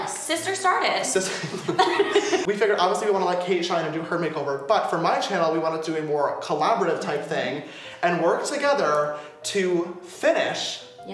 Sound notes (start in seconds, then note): 1.2 laughing